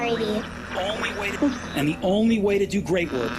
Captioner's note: static